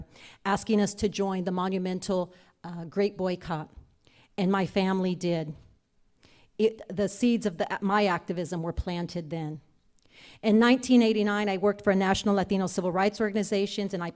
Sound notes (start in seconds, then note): none